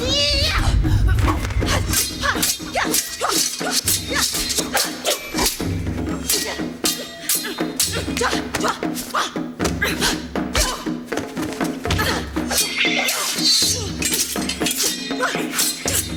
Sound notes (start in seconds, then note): 0.1 yelling; 2.3 swords clinking